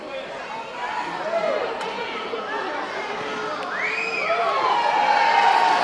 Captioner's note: audience cheering